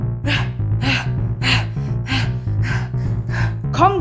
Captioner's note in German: Schweres Atmen